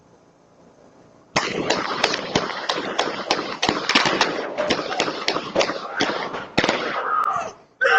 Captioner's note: multiple Gunshots